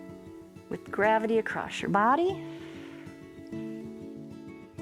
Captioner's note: exhales